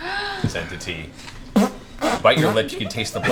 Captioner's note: makes fart noises